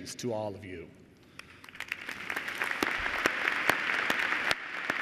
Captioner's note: applause